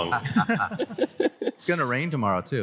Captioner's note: laughter